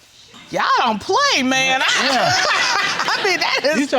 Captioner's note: laughing